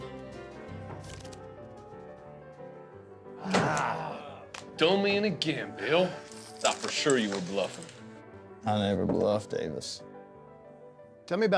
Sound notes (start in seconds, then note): 0.2 saloon music plays; 3.4 everyone groans